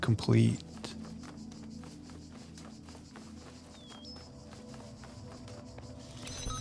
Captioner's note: beeping